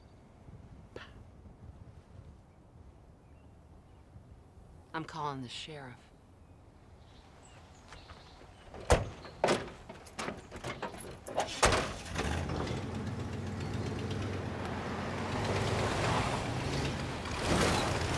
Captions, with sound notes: Pow. - I'm calling the sheriff. (truck engine revving)